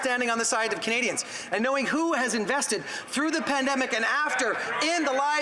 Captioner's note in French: voix de l'interprète